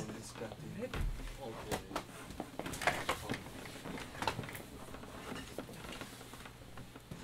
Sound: sound of people moving chairs

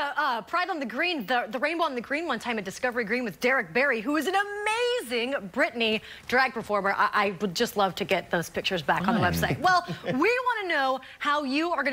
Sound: laughter

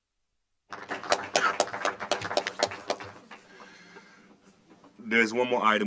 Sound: applause

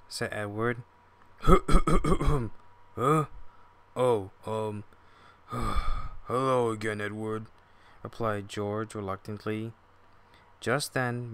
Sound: groan

